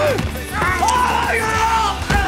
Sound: screaming

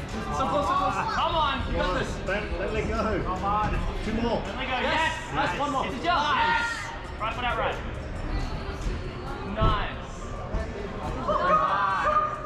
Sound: people cheering

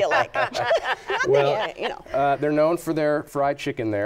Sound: laughter

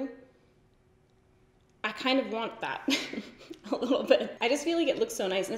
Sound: giggles

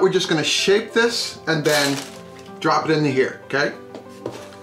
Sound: paper crinkling

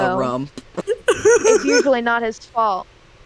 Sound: fake crying

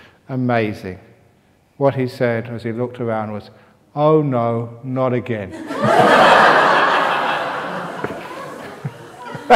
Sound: laughter

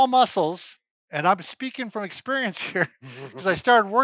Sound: laughing

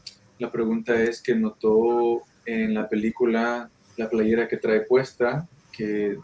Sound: speaking in foreign language

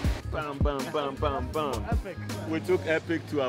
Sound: laughs; imitates gun shots

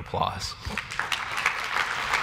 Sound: applause

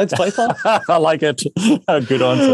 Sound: laughs

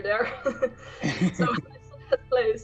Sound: laughing

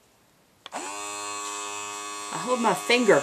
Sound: airbrush begins buzzing

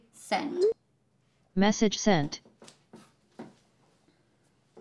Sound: robot voice

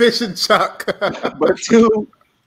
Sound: laughs

